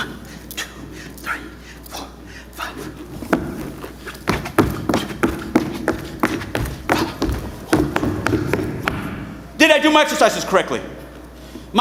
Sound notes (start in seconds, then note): 3.1 boots thudding